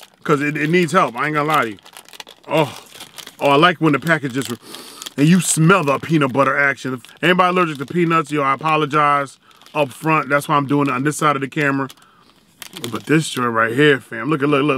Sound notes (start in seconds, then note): 4.6 inhales deeply